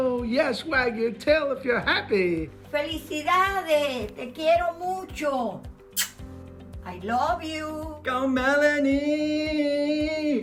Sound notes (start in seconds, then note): 3.0 speaking in foreign language